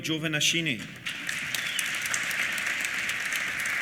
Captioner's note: applause